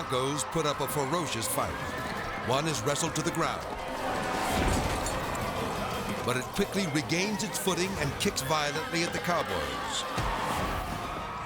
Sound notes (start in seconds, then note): 1.7 horse neighs; 4.3 horse thuds; 9.9 kick thuds